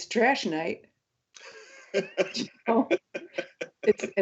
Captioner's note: laughs